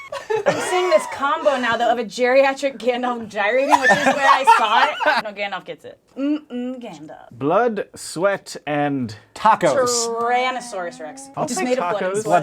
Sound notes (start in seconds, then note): 6.0 teasing voice